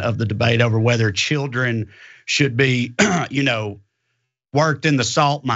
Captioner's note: cough